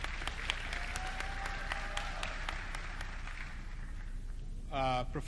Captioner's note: audience cheering